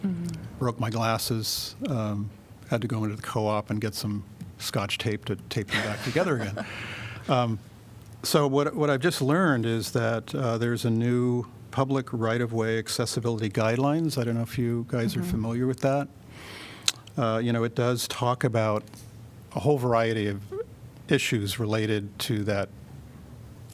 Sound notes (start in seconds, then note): 5.7 laughter